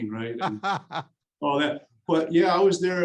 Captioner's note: laughing